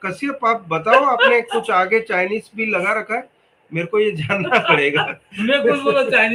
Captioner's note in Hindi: हंसी